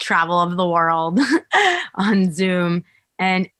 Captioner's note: chuckles